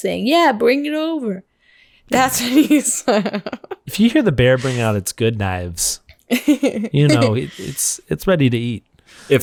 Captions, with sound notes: saying, "Yeah, bring it over!" That's when you- (laughs) - If you hear the bear bring out its good knives. You know, it's ready to eat.